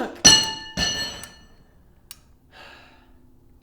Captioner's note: clanging